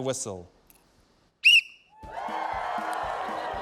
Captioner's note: whistle trills sharply; cheering, applause